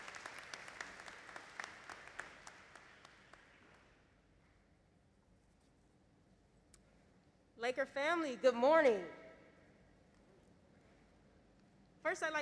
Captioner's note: applause